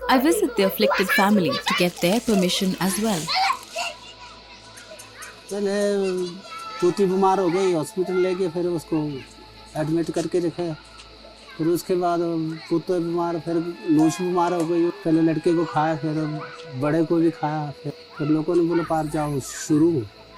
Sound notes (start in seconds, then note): 3.2 children shouting